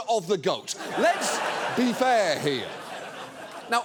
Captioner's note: studio audience laughs